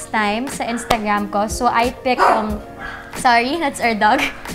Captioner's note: dog barking